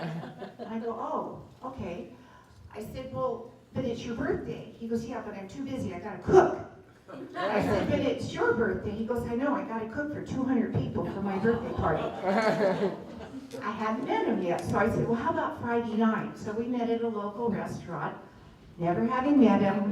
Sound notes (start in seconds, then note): 11.0 laughter